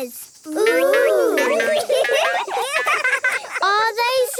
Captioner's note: laughing